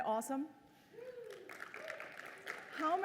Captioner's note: applause